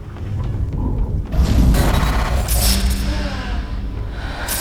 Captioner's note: rumbling and electric</b> <b>noises - lightning electric